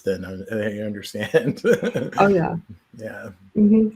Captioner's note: chuckles